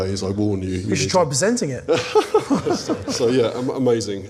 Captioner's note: laughter